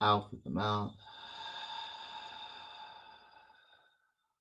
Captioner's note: exhale